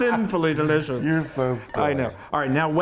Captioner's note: laughing